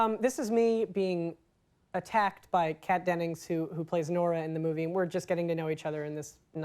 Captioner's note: none